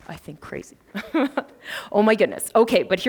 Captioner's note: laughs